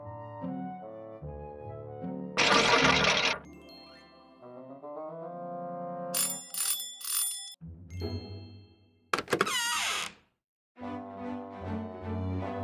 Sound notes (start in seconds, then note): 6.2 doorbell rings; 9.1 door creaks